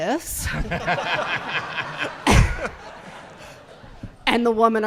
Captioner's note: audience laughing